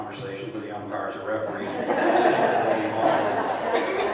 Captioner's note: laughter